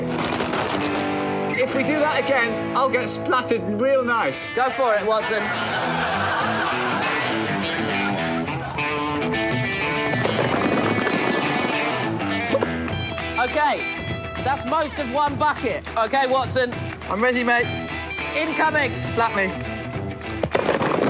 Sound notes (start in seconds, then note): 5.1 laughter; 11.2 applause